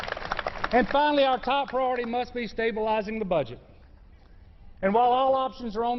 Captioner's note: applause